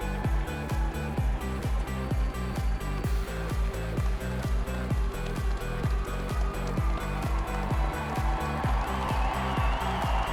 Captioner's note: audience cheering